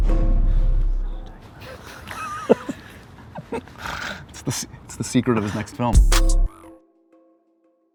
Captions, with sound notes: (laughs) It's the secret of his next film.